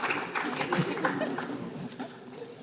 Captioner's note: laughs